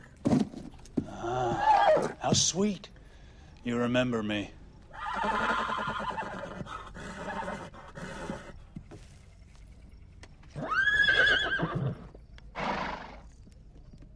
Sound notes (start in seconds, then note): 4.9 neighs